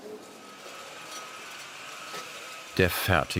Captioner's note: rattling whir